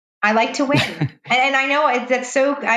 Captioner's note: laughing